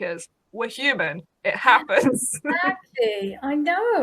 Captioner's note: laughs